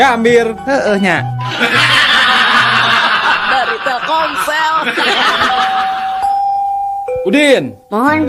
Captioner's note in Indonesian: tertawa